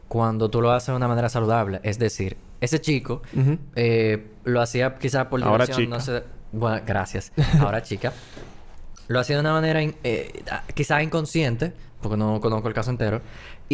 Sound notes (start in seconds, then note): 7.7 laughs